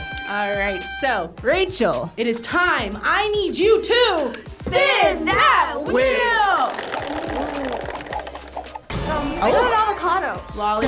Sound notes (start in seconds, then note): 0.0 triumphant tune; 6.5 wheel rattling